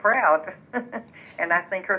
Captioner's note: laughs